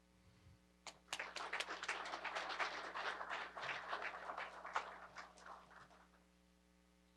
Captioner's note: applause